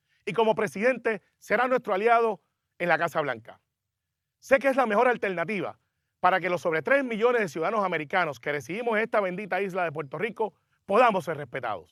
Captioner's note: speaking spanish